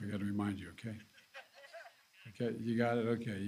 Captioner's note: laughter